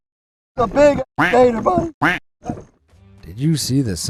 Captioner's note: duck quacking